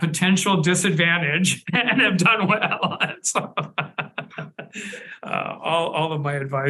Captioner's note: laughs